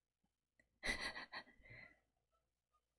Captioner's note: laughs